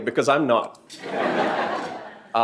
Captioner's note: laughter